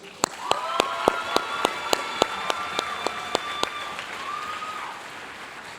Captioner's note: audience cheering and applauding